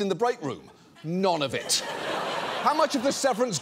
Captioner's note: audience laughs